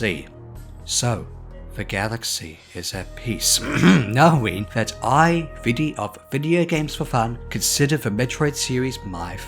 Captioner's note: ahem